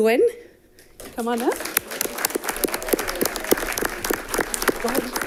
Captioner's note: all clapping